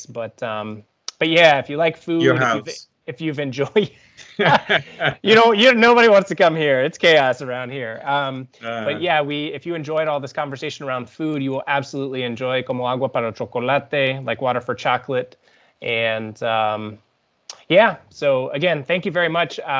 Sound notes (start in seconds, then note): 4.2 laughs; 12.4 speaking foreign language